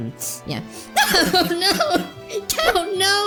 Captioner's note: starts crying